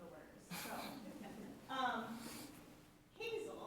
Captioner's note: people chuckle